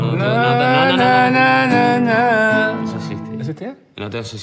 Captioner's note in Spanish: tararea " "